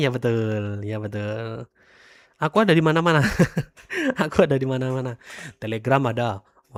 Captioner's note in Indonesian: tertawa